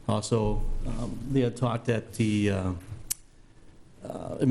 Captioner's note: none